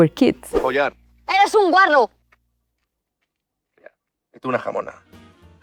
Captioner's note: people speaking Spanish